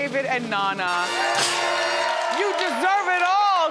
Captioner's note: triumphant music; audience cheers